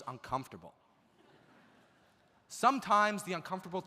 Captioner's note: audience laughs